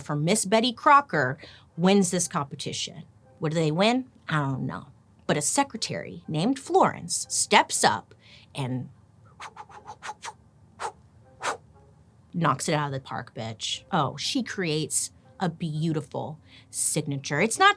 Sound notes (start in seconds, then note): 11.4 whooshing